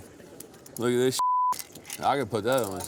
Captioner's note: beep